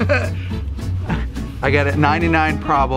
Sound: laughing

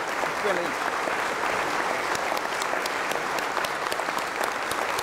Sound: audience applause

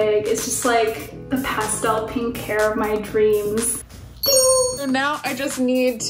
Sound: ding

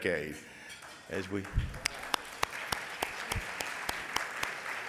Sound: audience applauds

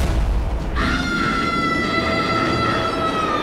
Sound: screaming

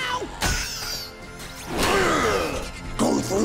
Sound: grunting

